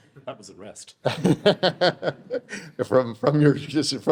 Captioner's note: laughing